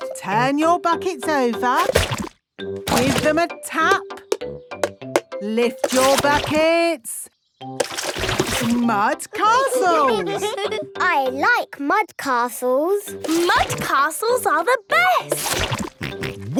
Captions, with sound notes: - Turn your buckets over. Give them a tap! - (taping) - Lift your buckets! Mud Castles! - (all giggling) - I like mud castles! - Mud castles are the best! - Grunt, grunt!